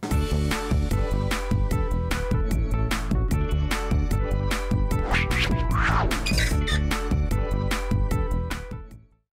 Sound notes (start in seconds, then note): 0.2 upbeat music; 4.9 swooshing noise; 5.8 squeaking hinge